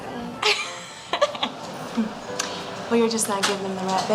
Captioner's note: laughing